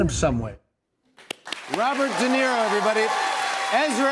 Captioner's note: cheers and applause